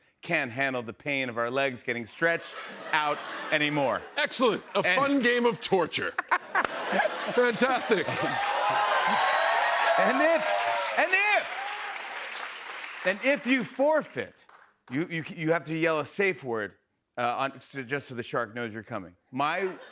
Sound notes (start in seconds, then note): 5.9 laughter; 8.3 cheers and applause